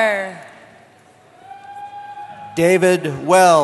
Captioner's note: cheering